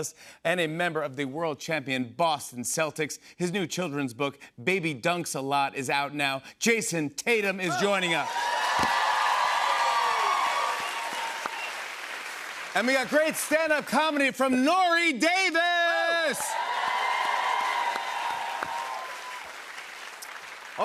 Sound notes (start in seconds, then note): 7.7 cheers and applause